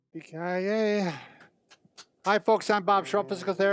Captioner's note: hands clapping